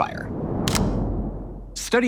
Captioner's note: wind whooshes